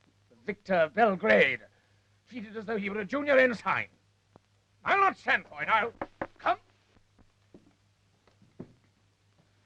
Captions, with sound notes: The victor of Belgrade. She did as though he was a junior ensign. I'll not stand for it, I'll- (knock raps) Come!